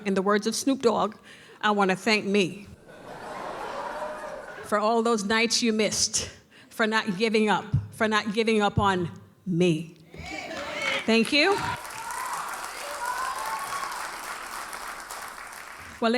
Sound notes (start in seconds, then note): 2.8 audience laughs; 11.9 audience cheers and applauds